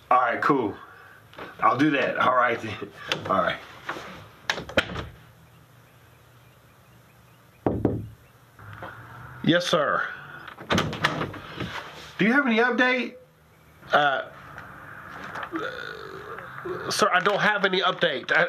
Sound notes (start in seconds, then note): 3.2 knock on door